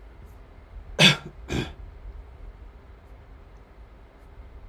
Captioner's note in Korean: 기침